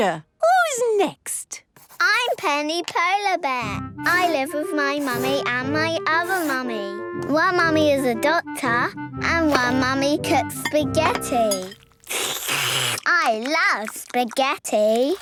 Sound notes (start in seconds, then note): 11.0 slurping